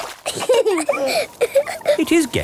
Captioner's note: both laughing